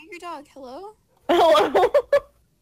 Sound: laughing

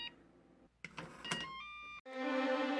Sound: door opening sound

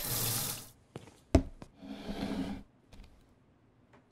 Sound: faucet runs; cup slides on table

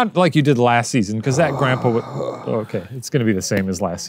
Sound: groans

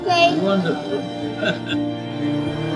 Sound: laughs

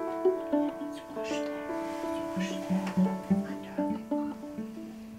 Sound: whispering

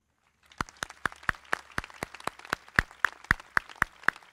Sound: crowd clapping

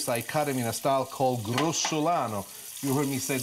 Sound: foreign language

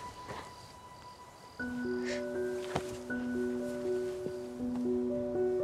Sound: crying

